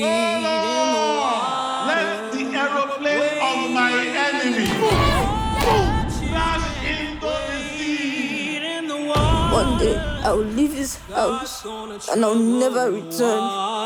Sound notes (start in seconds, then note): 4.7 boy yelps; 4.7 man grunts